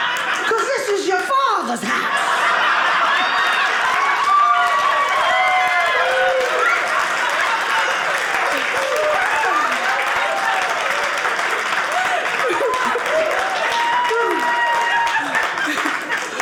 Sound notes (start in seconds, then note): 0.0 audience laughing; 2.2 audience cheering